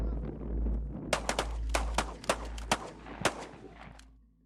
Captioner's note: guns firing